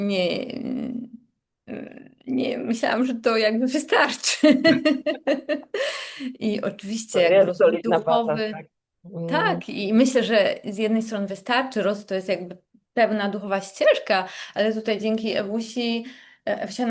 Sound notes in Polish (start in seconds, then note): 4.4 śmiech; 5.8 wciągnięcie powietrza